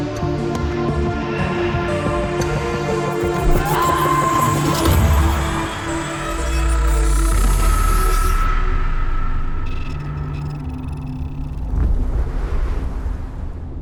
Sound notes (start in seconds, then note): 3.5 woman screaming; 8.5 scream dies out